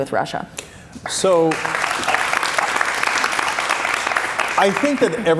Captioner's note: cheers and applause